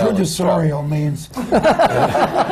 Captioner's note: laughter